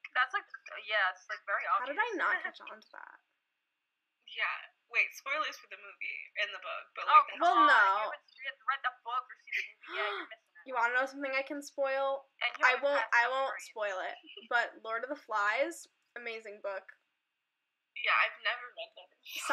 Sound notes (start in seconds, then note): 9.8 gasps